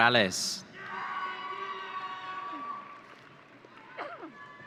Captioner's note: audience cheering